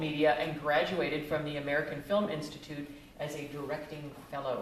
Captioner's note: none